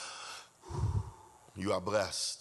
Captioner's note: breaths in